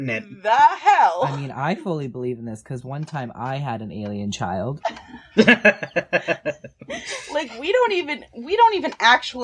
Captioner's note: laughter; laughter